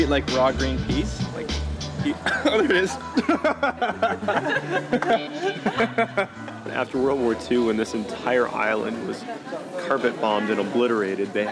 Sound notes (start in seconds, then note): 2.0 coughing; 3.8 laughter